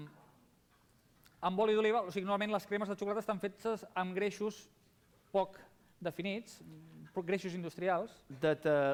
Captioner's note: non-english speech